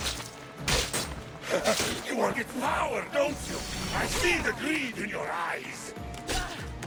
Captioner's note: laugh